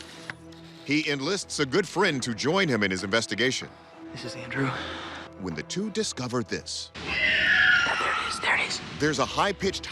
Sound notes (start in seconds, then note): 7.0 screeching